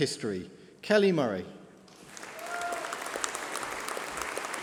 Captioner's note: applause